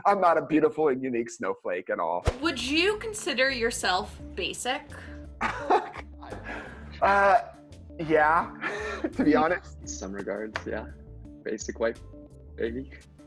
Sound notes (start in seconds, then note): 5.4 laughs